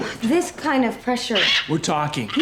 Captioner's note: kitty squawks